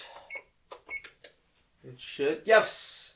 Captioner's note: beep, beep, click